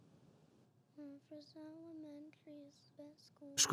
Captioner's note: speaking softly